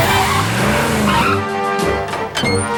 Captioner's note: tires screeching